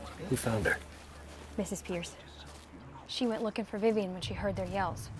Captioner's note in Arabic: none